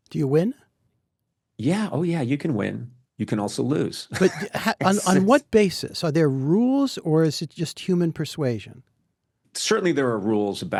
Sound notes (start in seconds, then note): 4.2 laughs